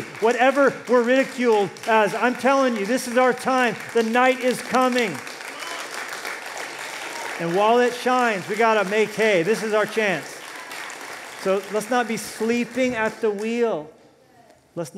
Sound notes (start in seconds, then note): 4.9 applause